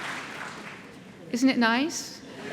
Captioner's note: applause; laughter